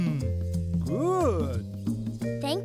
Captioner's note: sighing